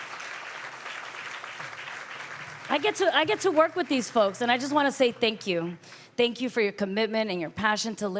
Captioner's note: applause